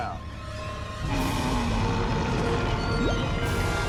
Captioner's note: growling